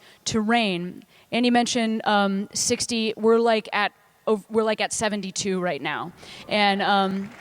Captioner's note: applause